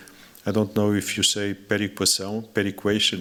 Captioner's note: non-english speech